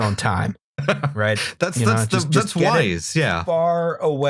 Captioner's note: laughter